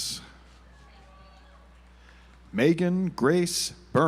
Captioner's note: audience applauds